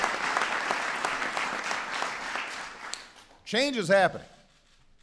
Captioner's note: applause